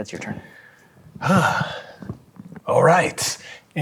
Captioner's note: sighs